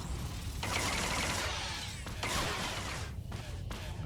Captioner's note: explosion